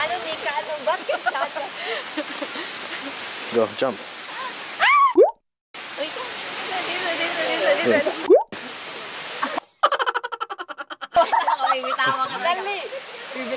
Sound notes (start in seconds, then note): 2.0 laughing; 4.8 scream